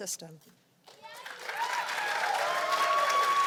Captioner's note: cheers and applause